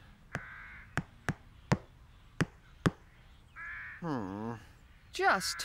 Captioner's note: tap! Tap! Tap! Tap! Tap! Tap!